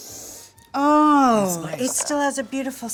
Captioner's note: sniffing